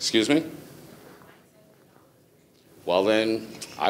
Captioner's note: speaking faintly